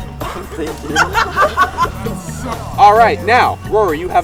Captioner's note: laughing